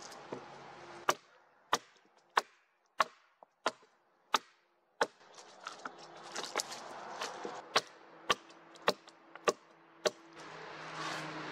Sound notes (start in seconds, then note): 1.6 axe knocking on wood; 5.1 wood cracking, motorbike passing; 7.6 axe knocking on wood, motorbike passing